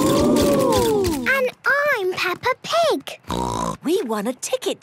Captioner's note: snort